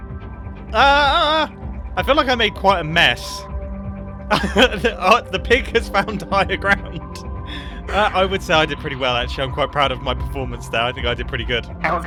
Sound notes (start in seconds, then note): 4.3 laughs